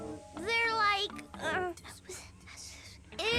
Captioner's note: whispering